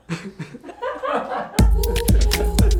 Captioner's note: producers laugh; upbeat music